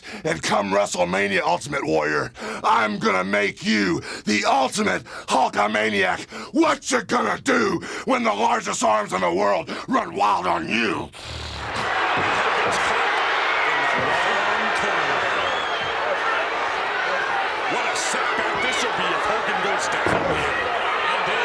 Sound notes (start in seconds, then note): 11.1 snorts; 11.7 crowd cheering; 13.7 Vince and Jesse chattering; 19.9 hand slapping